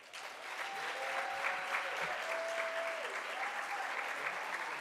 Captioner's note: audience applauds